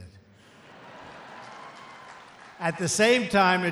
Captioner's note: applause